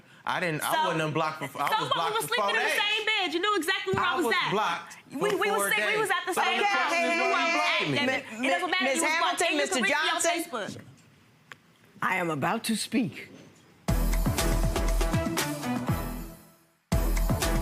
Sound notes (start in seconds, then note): 5.8 murmuring; 13.9 techno music